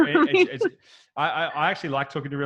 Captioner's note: laughing